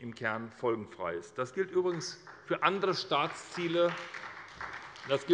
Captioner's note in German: Beifall bei der SPD